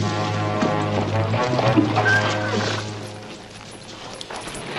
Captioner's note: whinnies